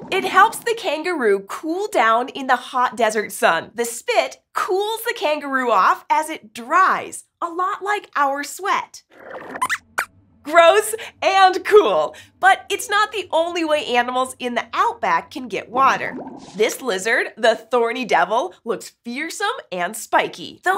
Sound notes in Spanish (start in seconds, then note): 9.4 Squeaks chirría